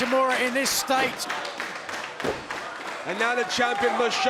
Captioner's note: applause